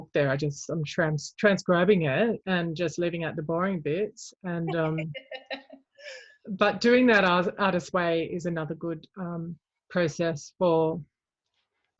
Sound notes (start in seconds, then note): 4.7 laugh